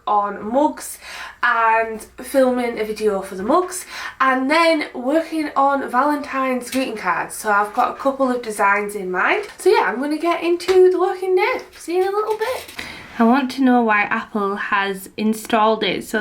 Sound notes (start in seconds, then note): none